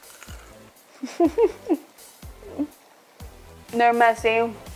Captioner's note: giggles